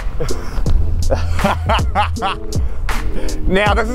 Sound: laughs

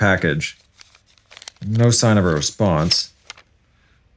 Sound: shuffling of papers

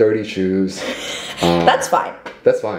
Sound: chuckles

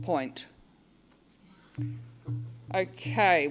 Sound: murmuring

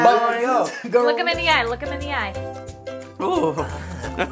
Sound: voiceover

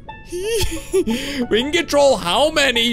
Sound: laughs

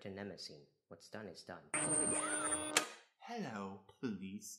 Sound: high pitched sci-fi noises, followed by a clicking sound; in a bad British accent

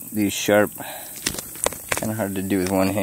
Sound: fish flopping

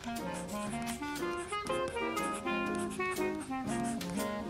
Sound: pencil scratching

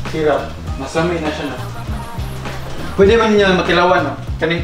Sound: speaks in foreign language

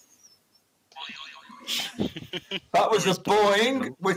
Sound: boing

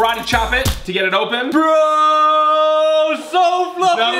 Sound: screams

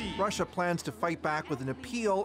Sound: speaking foreign language

